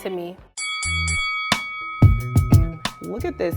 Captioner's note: bell dings